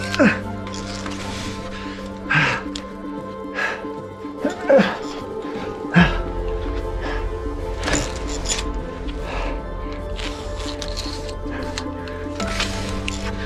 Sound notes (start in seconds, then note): 0.0 grunting; 4.8 grunting; 10.2 heavy breathing